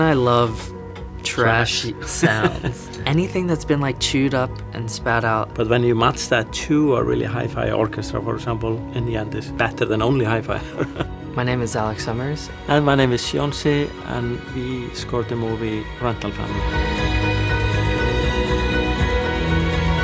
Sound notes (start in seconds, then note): 0.0 gentle music; 10.6 laughs; 16.6 gentle music continues